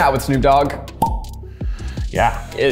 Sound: bottle pops

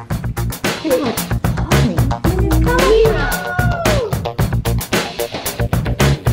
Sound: techno music; family cheering

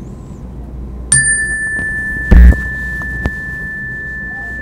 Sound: dinging

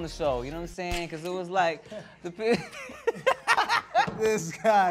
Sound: laughs

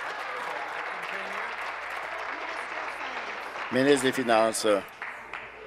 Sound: applause

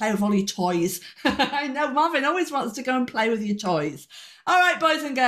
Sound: laughing

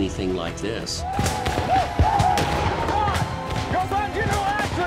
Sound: gunshots

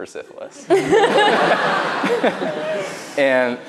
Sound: laughs

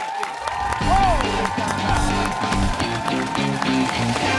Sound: applause

